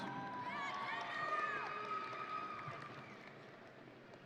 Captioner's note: audience cheering